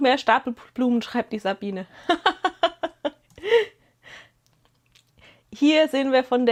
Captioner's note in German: gelächter